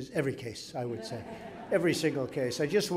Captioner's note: laughter